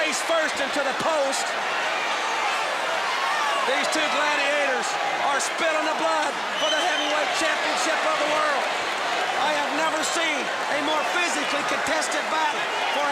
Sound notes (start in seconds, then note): 1.2 crowd chatter